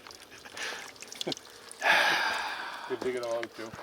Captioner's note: laughs